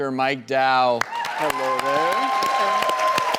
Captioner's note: audience cheers and claps